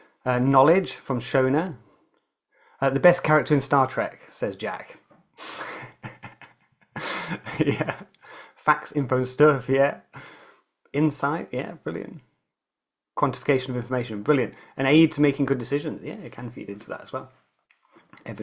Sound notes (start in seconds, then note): 5.4 chuckles